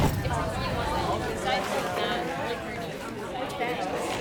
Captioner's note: students chattering